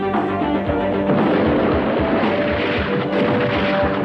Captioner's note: explosion booming; upbeat techno music